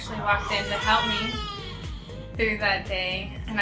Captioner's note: baby crying